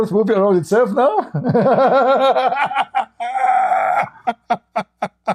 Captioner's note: Ketawa